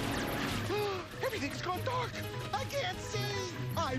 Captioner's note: gasps